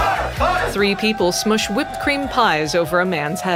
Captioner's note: cheering